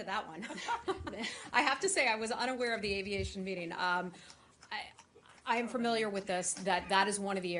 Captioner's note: laughter